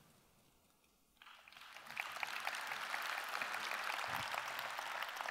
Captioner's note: audience applause